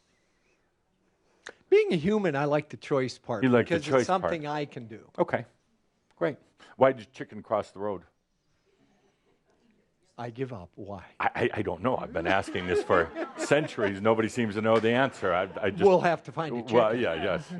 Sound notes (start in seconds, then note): 8.9 slight pause; 12.0 some laughter